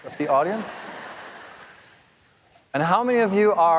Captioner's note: audience laughing